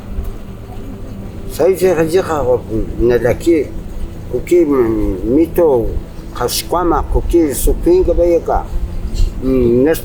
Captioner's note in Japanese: 重機